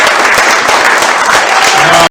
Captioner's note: audience cheer and applause